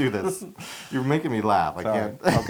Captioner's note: laugh